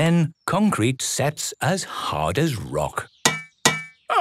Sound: none

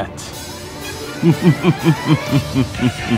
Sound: sinister chuckle

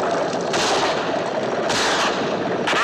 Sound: gunfire

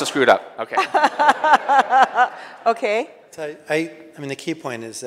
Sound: audience laughing

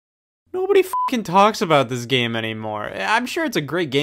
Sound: beeping

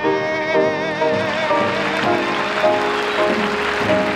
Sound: audience applauding

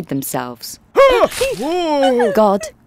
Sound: Adam shouting

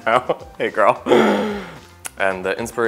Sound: laughing

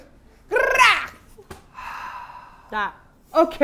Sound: sighs

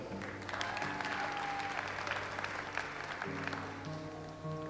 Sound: audience applauds

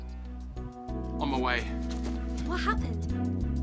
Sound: none

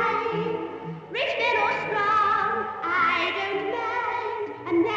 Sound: echoes

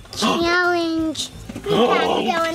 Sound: gasping

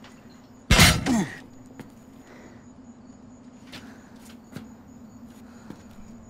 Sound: carrier clunks; Andrew groans

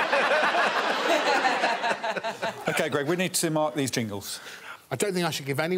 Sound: all laughing

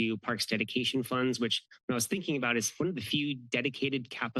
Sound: none

